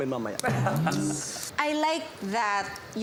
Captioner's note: laughs